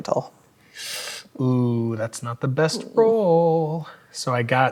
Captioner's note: inhales